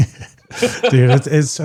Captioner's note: laughing